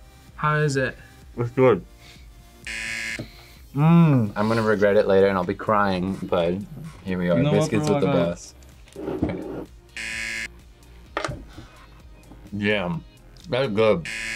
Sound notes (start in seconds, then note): 2.6 buzzer; 9.9 buzzer; 14.0 buzzer